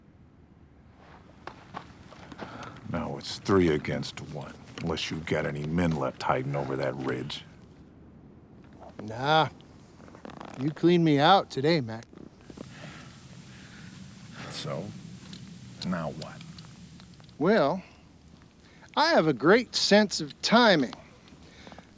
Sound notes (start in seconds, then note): none